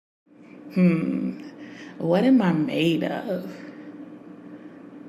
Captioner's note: sighs